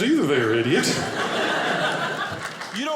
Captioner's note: audience laughing